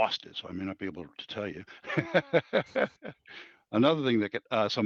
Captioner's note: laughs